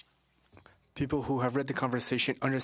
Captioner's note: speaking French